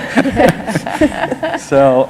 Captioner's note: laughter